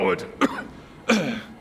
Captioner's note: cough